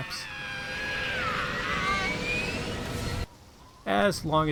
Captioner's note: airplane Sound Effect